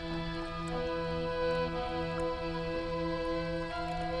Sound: water burbling

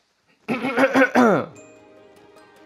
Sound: throat clearing

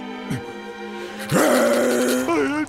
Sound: growling

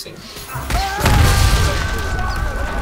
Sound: screaming

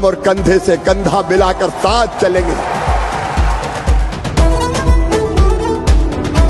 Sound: cheering

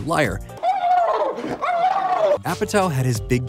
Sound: screaming

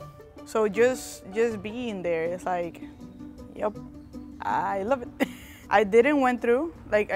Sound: giggles

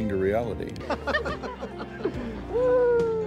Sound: laughter

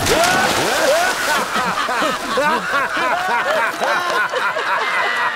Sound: all laughs

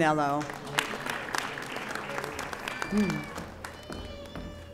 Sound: audience applauding

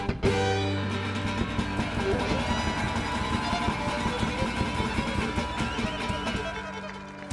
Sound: audience applauding

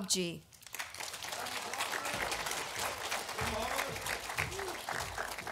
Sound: audience applauding

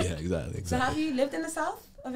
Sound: laughs

